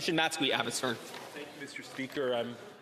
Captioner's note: speaking French